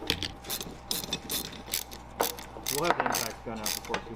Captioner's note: ratchet turning